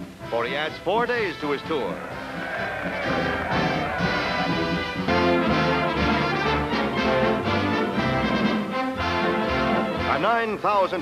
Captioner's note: cheering and music